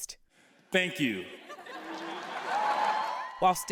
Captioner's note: cheering and applause